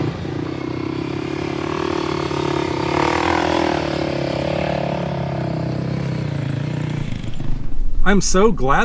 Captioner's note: vehicle sounds